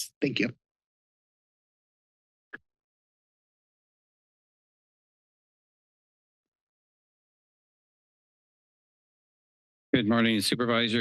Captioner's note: silence